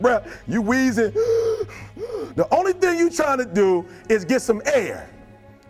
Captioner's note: wheezing sounds